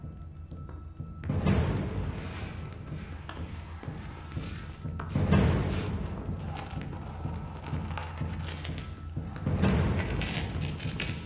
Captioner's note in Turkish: Adım Sesleri